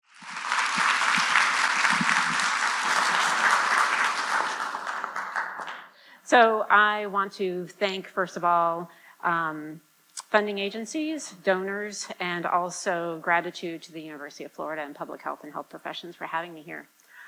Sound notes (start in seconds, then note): 0.0 applause